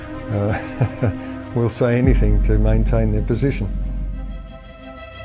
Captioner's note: chuckles